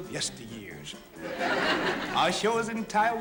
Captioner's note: laughter